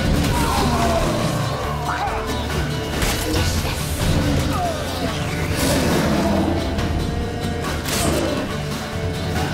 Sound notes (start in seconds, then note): 0.1 men scream; 6.5 roar